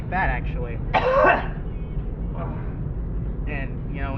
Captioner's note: assailant coughs again and groans